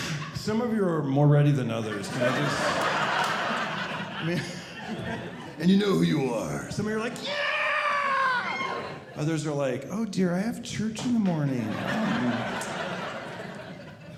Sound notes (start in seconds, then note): 1.7 audience laughing; 11.5 audience laughing